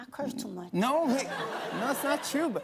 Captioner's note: laughter